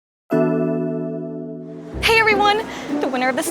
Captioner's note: bell rings